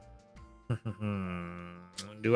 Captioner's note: chuckles